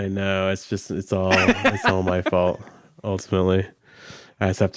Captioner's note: laughs